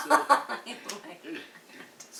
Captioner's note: laughs